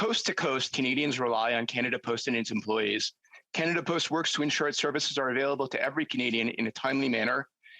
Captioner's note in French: voix de l'interprète